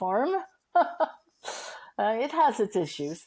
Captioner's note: laughing